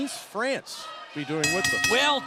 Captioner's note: bell ringing